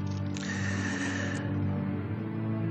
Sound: takes a deep breath

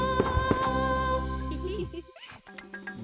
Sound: giggling

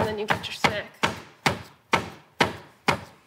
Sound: pounding

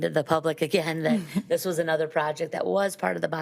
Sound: chuckles

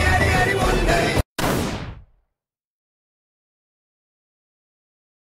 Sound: A distant gun shot hears...Person 1 collapses to ground

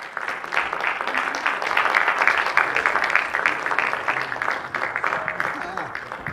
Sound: applause

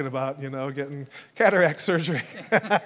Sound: laughs

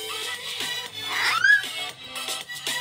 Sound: screams

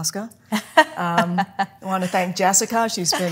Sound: laughing

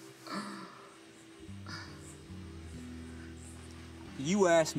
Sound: sighs

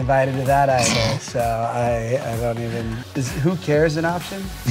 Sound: laughing

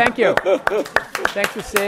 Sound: applause

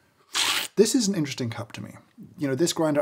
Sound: slurping

